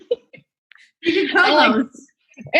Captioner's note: laugh